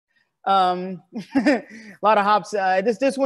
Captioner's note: laughs